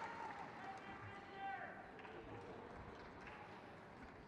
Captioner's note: crowd cheers